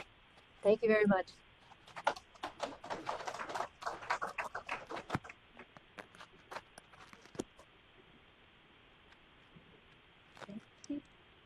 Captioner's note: applause